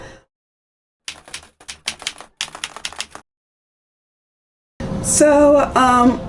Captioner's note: keyboard keys clicking